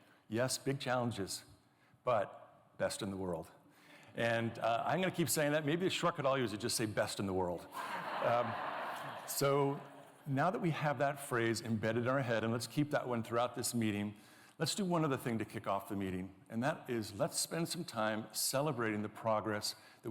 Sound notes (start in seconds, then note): 7.7 laughter